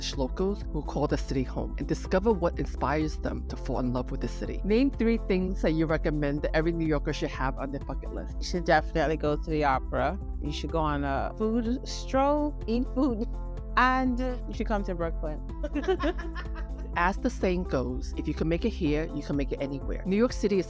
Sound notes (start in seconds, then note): 15.6 giggling